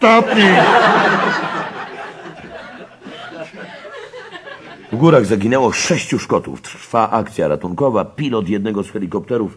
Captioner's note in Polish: śmiech